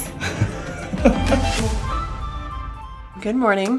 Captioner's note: laughs